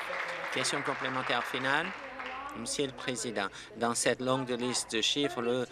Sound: applause

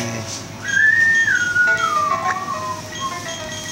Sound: whistles

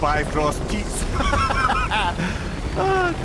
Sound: laughing

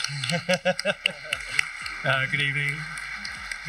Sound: crowd applauding

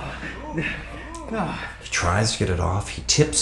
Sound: grunts

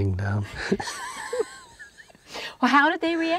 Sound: both laughing

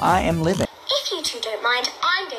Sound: voice On Computer

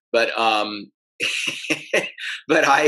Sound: laughs

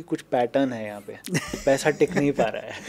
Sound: laughing

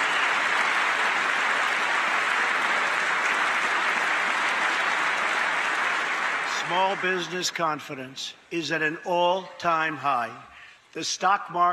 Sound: cheers and applause; applause

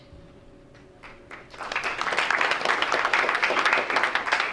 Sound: crowd applauds

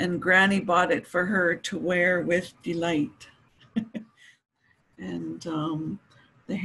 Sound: she laughs

